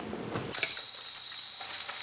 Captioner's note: kettle whistling